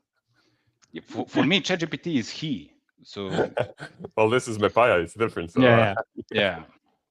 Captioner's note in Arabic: ضحك